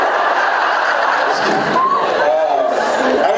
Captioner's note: laughing; laughs